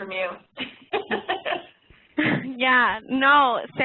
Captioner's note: laughing